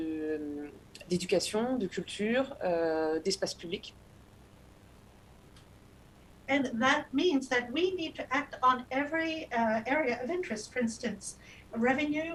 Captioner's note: speaking non-english